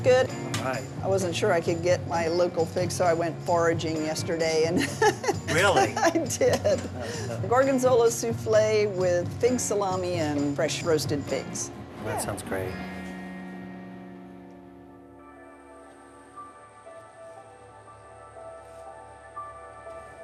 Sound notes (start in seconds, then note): 4.8 laughs